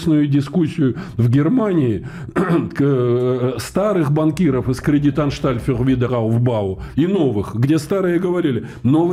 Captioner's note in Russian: откашливается